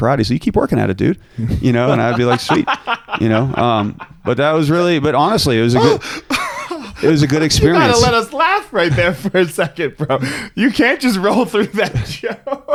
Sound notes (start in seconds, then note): 2.3 laughing; 5.6 chuckling